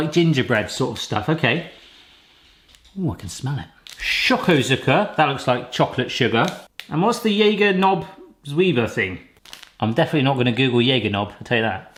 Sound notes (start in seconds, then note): 0.0 speaking German; 4.4 speaking German; 8.2 speaking German; 10.9 speaking German